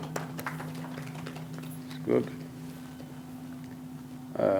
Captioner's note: applause